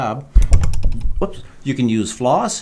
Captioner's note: microphone rattles